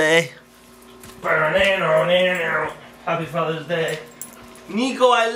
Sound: vocalizes

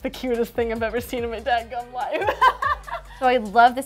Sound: laughs

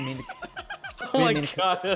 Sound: laughter

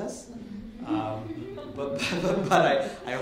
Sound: light laughter

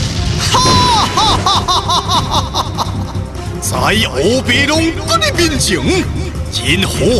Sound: laugh

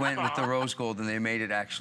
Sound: laughter

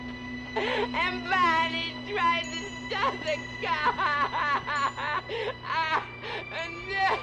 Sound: weeps

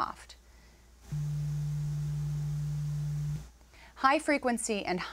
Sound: low-pitched tone

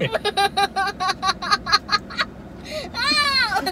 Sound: laughing

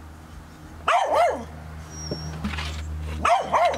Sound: dogs barking

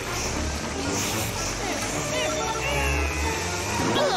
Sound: grunting

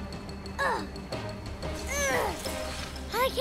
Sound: grunting

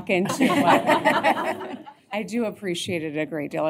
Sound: laughter

